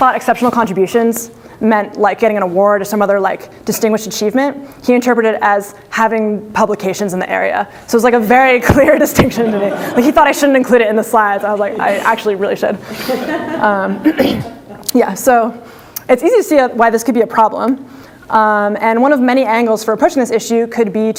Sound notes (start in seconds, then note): 12.6 audience laughter